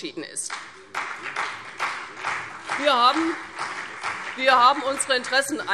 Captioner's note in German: Beifall CDU und BÜNDNIS 90/DIE GRÜNEN